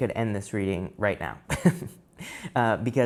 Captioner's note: tarot reader laughs